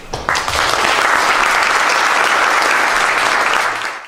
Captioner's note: applause